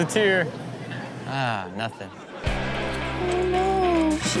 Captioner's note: crowd laughs